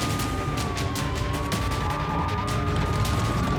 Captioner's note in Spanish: sonido de sirenas; chirrido de llantas